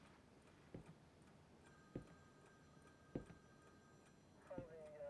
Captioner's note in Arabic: خطوات تنقر; رنين الهاتف; ثرثرة راديو الشرطة; رنين الهاتف